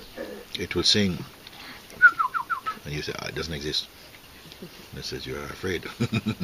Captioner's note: whistles; chuckles